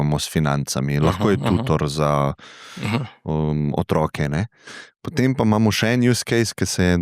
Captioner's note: clears throat